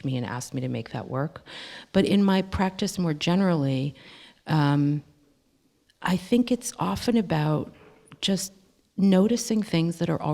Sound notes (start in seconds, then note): none